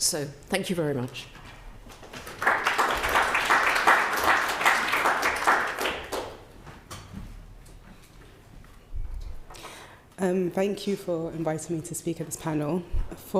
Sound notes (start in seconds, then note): 1.9 participants clapping